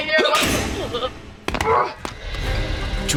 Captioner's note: thudding